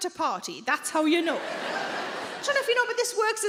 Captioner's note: audience laughing